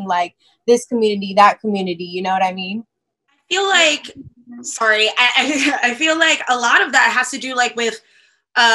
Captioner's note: laughs